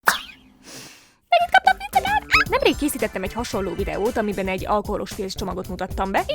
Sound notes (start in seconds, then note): 0.6 inhale